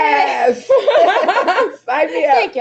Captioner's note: laughing